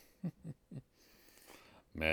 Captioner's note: chuckles